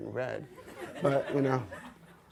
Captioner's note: audience laughs